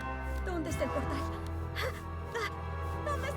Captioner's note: gasp